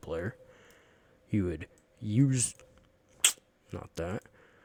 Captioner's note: sucking on teeth sound